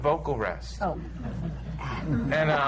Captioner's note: laughter